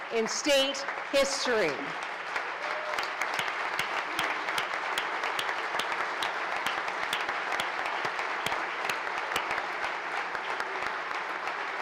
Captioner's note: applause